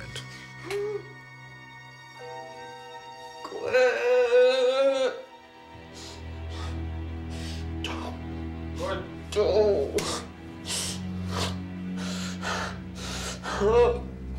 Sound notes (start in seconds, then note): 3.4 moaning